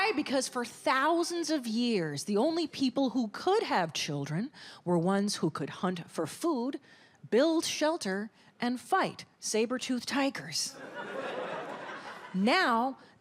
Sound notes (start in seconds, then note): 10.8 audience laughs